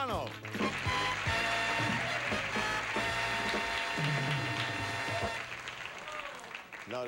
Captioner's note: audience applauding